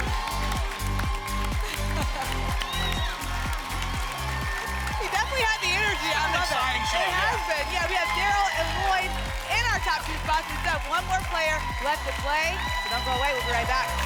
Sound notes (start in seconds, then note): 1.6 laughs; 2.7 applause and cheering cont